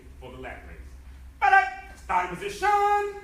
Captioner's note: enthusiastic shouting